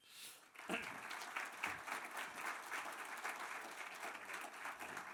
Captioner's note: audience applause